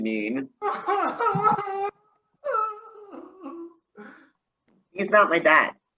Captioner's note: unintelligible sobbing